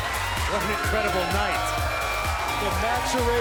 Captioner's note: crowd cheering